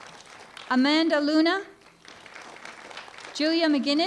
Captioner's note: applause